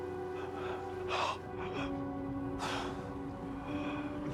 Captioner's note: Walter gasping